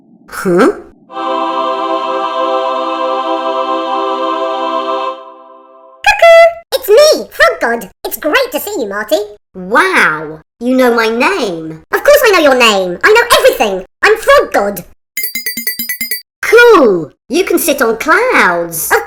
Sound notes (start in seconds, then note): 1.1 beautiful heavenly music; 15.2 tinkling sound